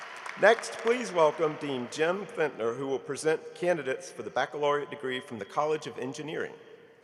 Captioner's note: applause